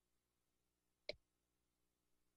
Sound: click

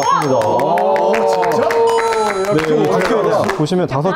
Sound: claps

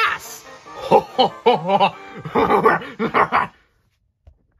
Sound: engine laughing noises

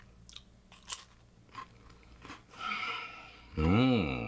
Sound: crunching

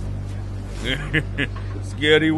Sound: laughs

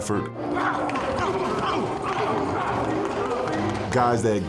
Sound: players grunting

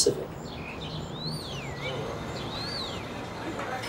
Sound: birds chirping

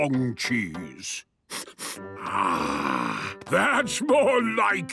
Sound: sniffs

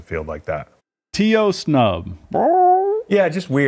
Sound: squawks

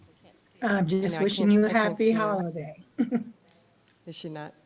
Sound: chuckles

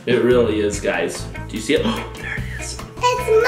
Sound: gasps

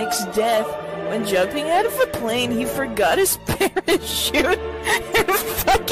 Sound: laughs

